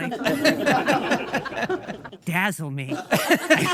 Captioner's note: audience laughing